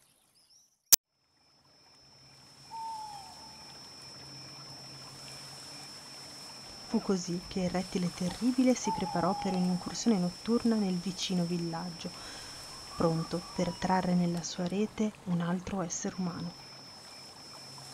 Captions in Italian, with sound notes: [Suoni della natura: grilli, gufi, volpi etc.] Fu così il rettile terribile si preparò per un’incursione notturna nel vicino villaggio pronto per trarre nella sua rete un altro essere umano.